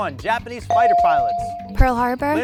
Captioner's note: bell ring